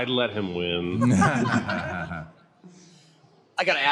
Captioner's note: laughter